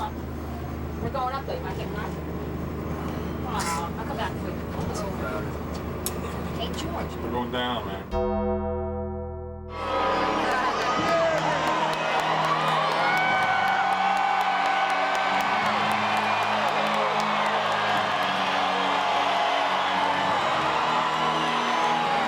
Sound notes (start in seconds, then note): 8.1 dramatic music; 10.2 crowd cheering